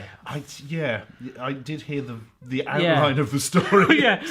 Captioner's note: laughs